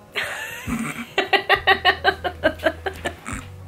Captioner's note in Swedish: Skratt